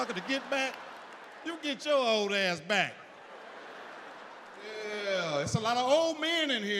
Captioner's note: audience laughs